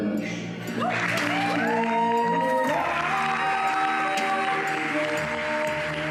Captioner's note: audience clapping and cheering